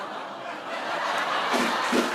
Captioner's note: laughter